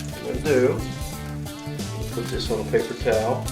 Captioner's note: voiceover